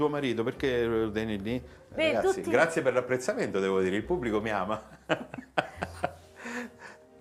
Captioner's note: Risate